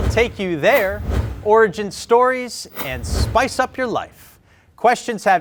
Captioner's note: none